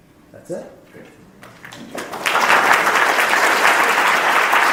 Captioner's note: applauding